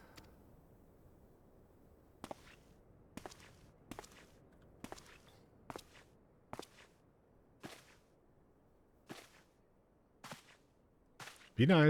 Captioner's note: silence